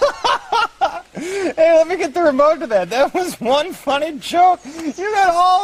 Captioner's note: laughing